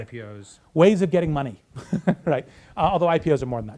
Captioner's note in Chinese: 大笑